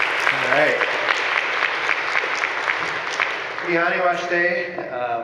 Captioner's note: speaks in foreign language